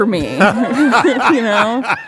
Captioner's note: audience laughing